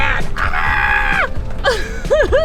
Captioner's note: screams; laughs